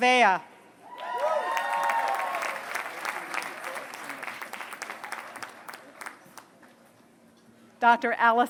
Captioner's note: applause